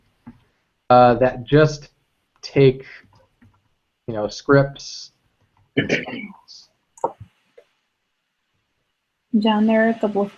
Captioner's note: cough